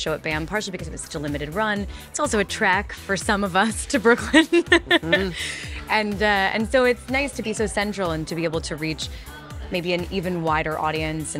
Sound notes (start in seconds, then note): 4.3 laughs